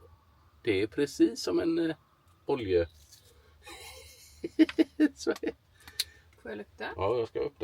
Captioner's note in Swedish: skratt